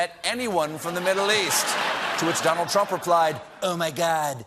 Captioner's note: laughter